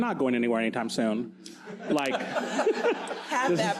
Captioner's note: audience laughs